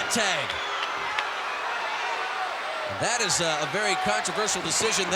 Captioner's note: applause